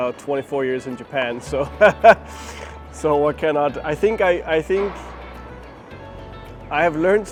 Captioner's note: laughs